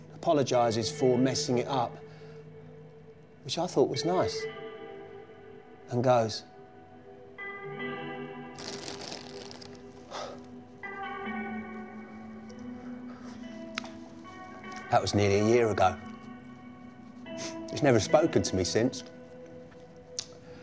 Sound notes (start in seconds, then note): 8.5 packet rustling; 8.5 gentle music; 11.1 gentle music continues